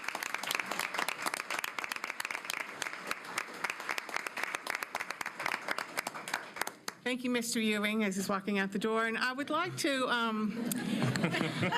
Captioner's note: applause